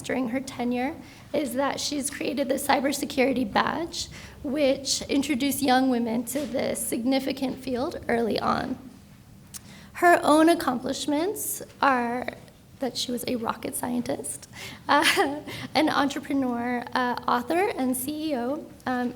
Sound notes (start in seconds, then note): 15.0 laughs